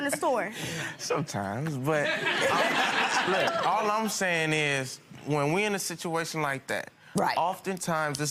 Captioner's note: crowd laughing